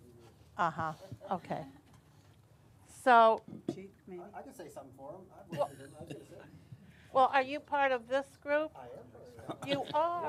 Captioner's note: laughter